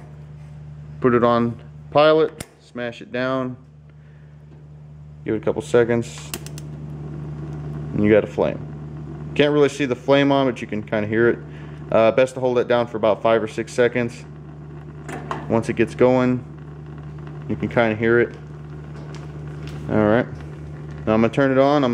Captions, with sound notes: Put it on pilot, smash it down, give it a couple seconds. (clicking) You got a flame. (faint roaring) Can't really see the flame on but you can kinda hear it. Best to hold that down for five or six seconds. Once it gets going, you can kinda hear it. Alright, now I'm gonna turn it on.